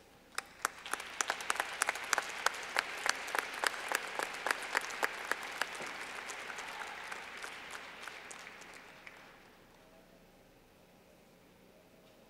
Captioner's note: clapping